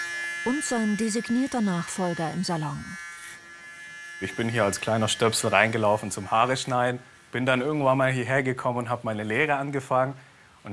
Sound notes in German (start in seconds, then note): 3.0 Summen